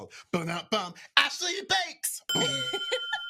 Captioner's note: imitates a drum sting; bell dings; both laughing